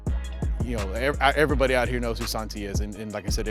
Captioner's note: voiceover